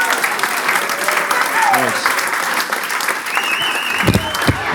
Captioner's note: applause break